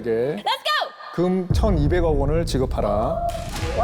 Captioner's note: thud sound effect